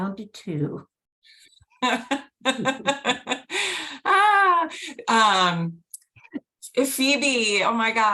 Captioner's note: laughter